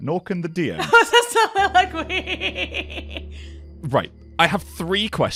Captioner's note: laughing